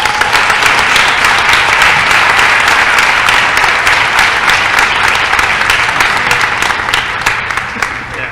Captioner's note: applause